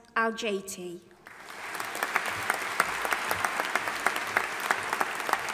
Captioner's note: audience applauding